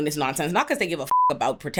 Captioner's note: beep